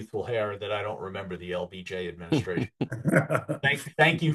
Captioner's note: laughs